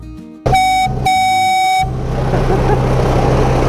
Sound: train horn tooting; laughing

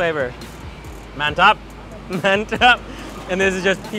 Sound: speaking in foreign language

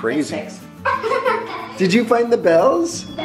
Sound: laughing

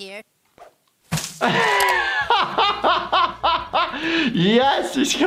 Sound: bag squishes; laughs

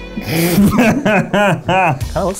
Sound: slow violin playing; laughing

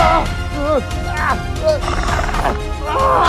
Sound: velociraptor growling

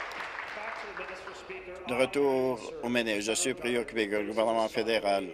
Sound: applause

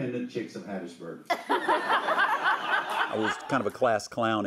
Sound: audience laughs

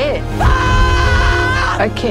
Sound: screaming

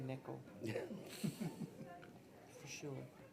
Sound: people laughing

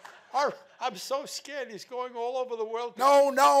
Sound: laughing continues

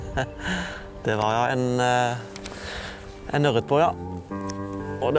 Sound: giggle

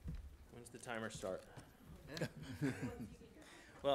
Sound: some chuckling

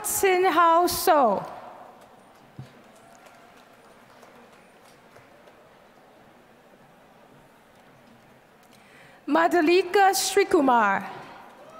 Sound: applause; applause

